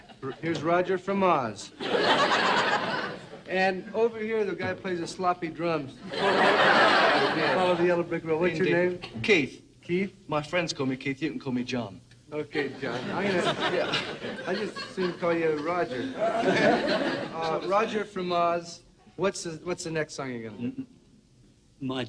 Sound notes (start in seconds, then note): 1.8 crowd laughs; 6.0 crowd laughs